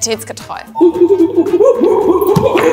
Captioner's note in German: Affenlaute